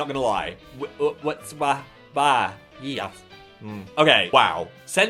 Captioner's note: stammering in confusion